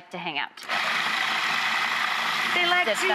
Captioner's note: grinding